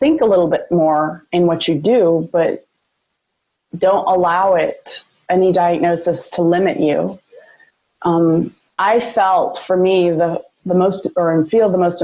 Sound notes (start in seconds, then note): none